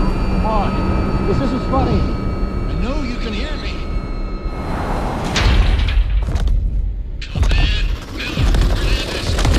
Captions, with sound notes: Come on, this isn't funny. I know you can hear me! [GROUND SHAKES OMINOUSLY]